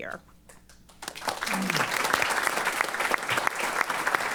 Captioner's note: applause